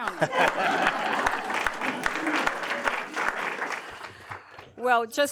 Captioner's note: applause